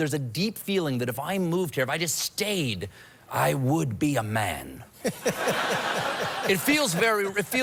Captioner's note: audience laughs